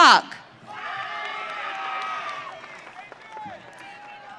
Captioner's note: audience cheering